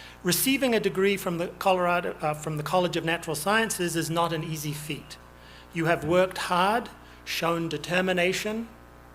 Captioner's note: none